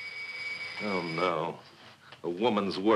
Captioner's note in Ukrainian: дзвінок у двері